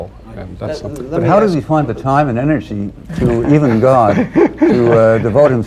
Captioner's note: laughter